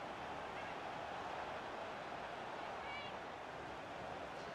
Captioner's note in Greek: χειροκρότημα